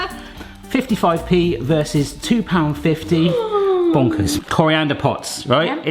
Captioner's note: gasps